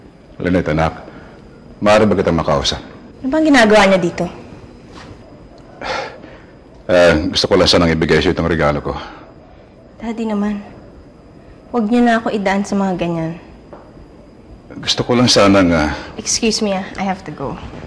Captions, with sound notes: Lynette, dear, can I talk to you? What are you doing here? [sighs] I just wanted to give you this gift. Daddy, please. Don't put me through this. -I just wanted to... -Excuse me. I have to go.